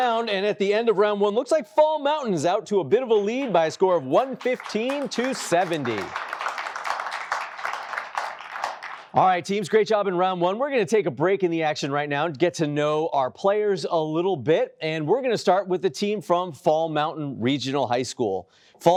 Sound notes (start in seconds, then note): 6.1 applause